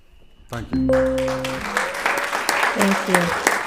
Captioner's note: applauds